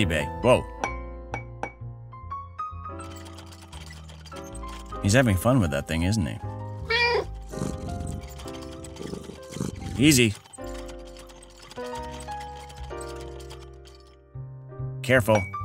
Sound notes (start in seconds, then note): 6.8 meow